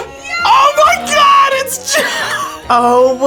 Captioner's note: laughs